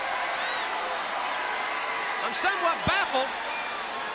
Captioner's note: crowd cheering